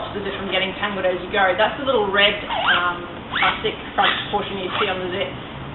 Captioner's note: zipper whooshing